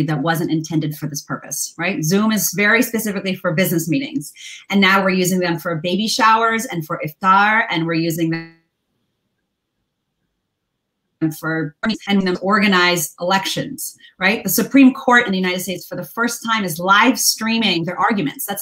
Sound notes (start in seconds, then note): 8.3 audio gets distorted